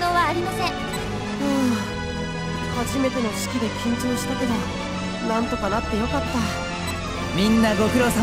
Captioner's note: sigh